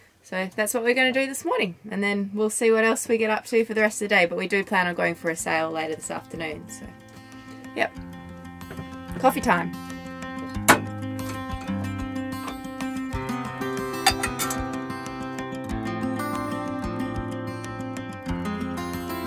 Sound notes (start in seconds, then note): 10.7 peaceful guitar music; 14.0 metal clanging